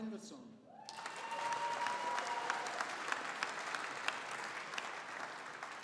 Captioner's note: audience applauding